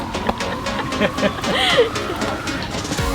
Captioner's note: laugh